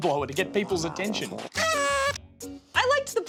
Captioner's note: blows party blower